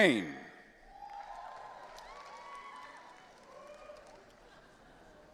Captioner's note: audience cheering